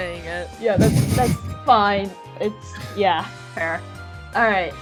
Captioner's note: laughs